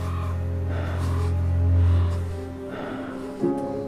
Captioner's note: bird cawing; man panting